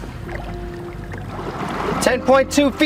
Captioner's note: water trickles